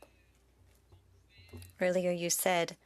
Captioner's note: speaking French